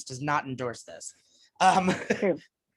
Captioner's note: laughs